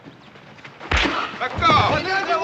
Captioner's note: pow!; men shouting in native language